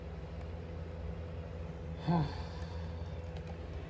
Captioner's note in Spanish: Caprice suspira